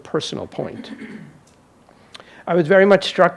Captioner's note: audience member clears throat